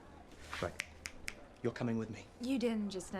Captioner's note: finger snapping